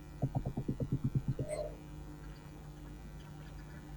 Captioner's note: typing